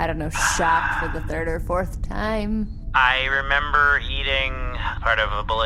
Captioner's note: sighs